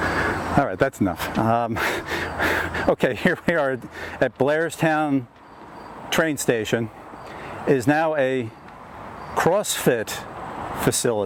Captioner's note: out of breath